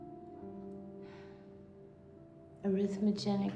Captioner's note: sighs softly